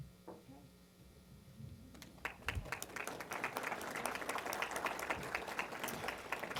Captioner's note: applause